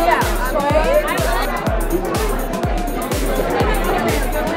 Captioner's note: crowd chatter